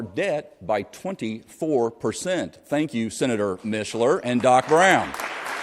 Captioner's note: applause